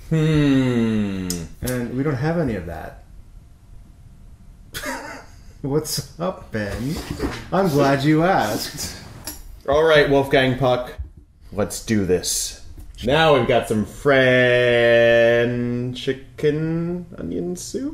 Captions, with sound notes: Hmm. Hmm! And we don't have any of that. [Laughs.] What's up, Ben? "I'm glad you asked!" All right Wolfgang Puck! Let's do this. Now we've got some French-ican onion soup??